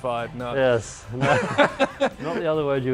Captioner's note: laughing